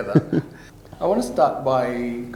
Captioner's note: laughs